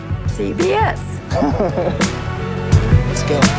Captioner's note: cameraman laughs